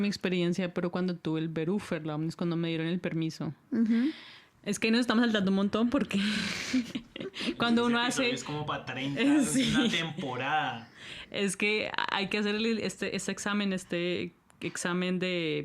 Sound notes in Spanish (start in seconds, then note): 9.4 risas